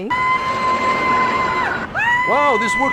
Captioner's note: screaming